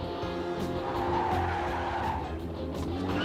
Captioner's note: tires screeching